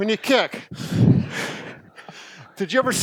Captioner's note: exhales